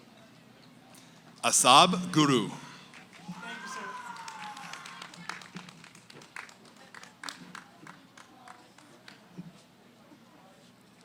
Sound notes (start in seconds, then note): 0.0 background conversations; 2.8 cheering, applause; 9.7 background conversations